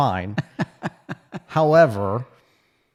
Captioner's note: laughs